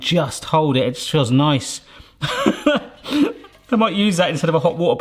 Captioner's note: laughs